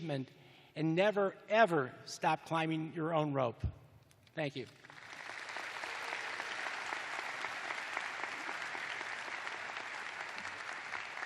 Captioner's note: applause